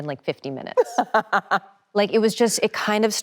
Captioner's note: Emily laughing cheerfully